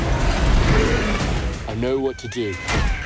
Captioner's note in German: Drache brüllt